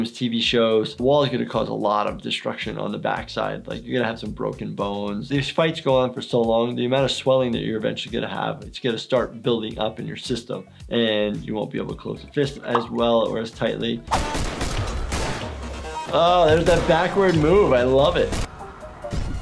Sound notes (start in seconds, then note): 14.0 gun shots